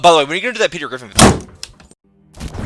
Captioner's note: door Slams